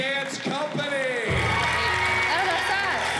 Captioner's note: cheering and applause